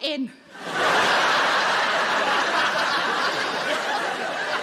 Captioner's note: audience laughing